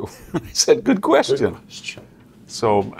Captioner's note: laugh